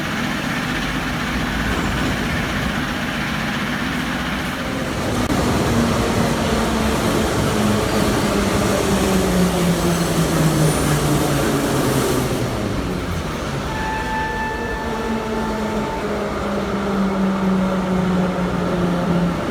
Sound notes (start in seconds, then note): 0.5 closing doors of the arriving train; 5.3 arrival of train at the station; 14.2 arrival of another train at the station